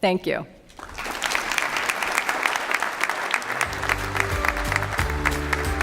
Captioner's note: applause